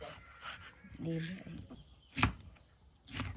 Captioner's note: sound of my knife and chopping board